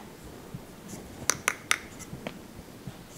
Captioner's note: heavier creaking